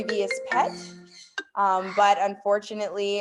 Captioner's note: cellphone ringing